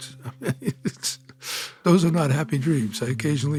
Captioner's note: laughs